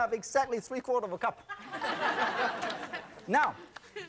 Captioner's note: audience laughs